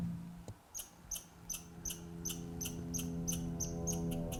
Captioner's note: bird chirping